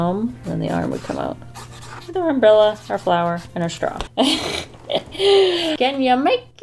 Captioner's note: chuckles